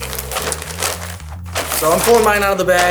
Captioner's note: bag clatters